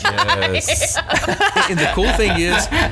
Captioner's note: laughing; laughs